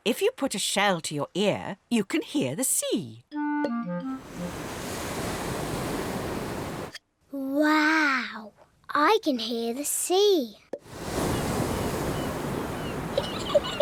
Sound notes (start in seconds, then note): 4.1 waves crash and swoosh; 10.8 wave noises; 10.9 seagulls shriek; 13.2 giggles